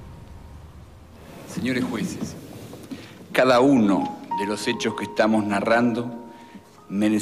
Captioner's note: Ocampo speaking Spanish